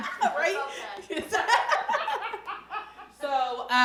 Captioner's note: laughing